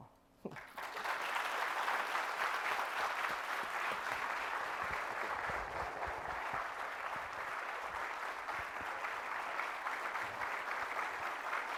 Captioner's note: applause